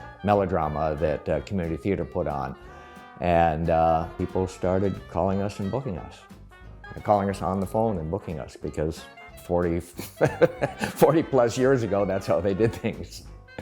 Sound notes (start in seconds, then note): 10.0 laughs